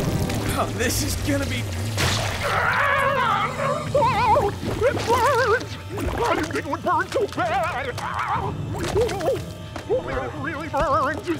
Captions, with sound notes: Oh, this is gonna be- [groaning] Oh, it hurts. I didn't know it'd hurt so bad. [groaning] It really hurts.